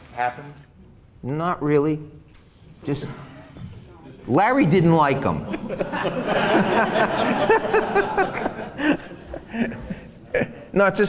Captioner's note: laughs